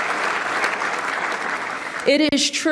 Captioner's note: applause